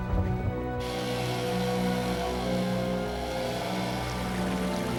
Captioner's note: chain saws whine